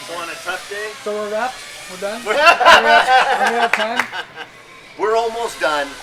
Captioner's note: laughing